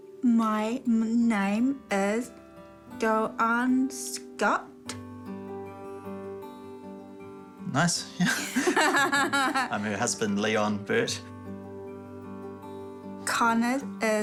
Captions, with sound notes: My name is Joanne Scott. Nice. Yeah. (BOTH CHUCKLE) I'm her husband, Leon Birt. (GENTLE MUSIC)